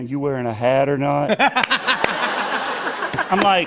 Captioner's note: laughter